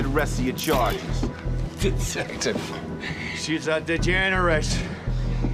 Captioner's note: laughing